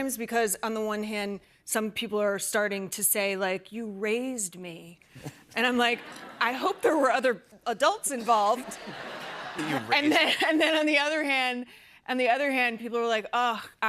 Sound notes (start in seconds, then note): 8.3 laughter